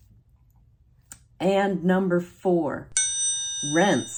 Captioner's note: bell dinging